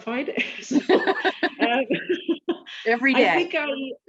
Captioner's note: both laughing